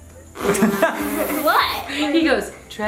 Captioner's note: laughs loudly